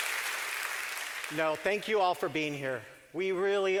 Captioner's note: clapping